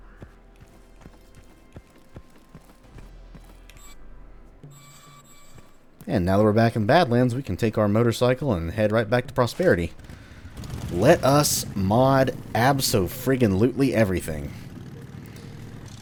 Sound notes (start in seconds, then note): 9.5 motorcycle revs